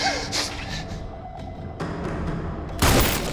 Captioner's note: gunshot